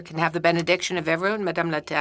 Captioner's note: speaking French